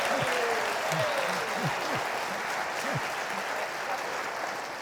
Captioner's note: laughs; audience cheering